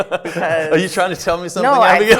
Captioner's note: laughs